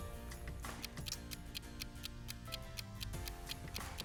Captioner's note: timer ticking